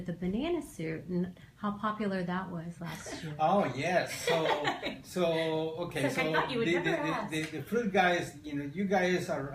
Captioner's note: laughter